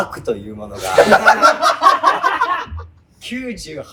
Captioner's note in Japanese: 笑い声